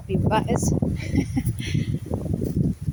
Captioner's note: laughs